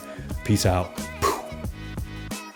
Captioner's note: puffs